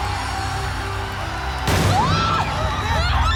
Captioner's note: screaming; gunshot